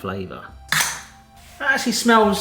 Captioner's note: tab pops